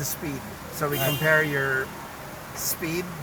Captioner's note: car beeps